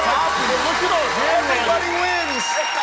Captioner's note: applause